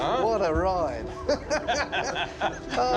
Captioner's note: laughter